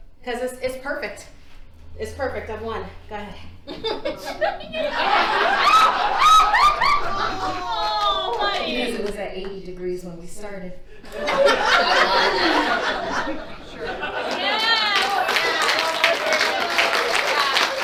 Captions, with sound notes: - Cause It's perfect, it's perfect, I've won, go ahead. (audience laughs) - It's at 81. - Because it was at 80 degrees when we started. (audience laughs) (audience applauds)